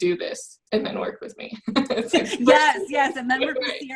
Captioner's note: laughs